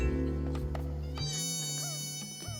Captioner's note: chuckles